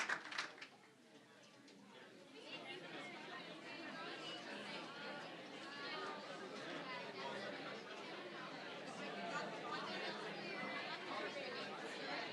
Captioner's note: applause; general chatter